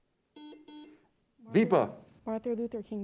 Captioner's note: buzzer beeps